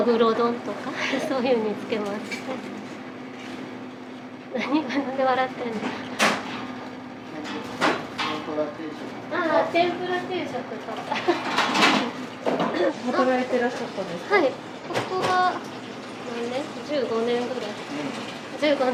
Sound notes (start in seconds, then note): 4.6 laughs; 12.7 laughs